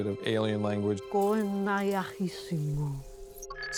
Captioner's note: speaking alien language